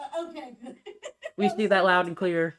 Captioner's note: laughs